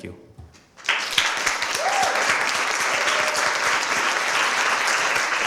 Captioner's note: applause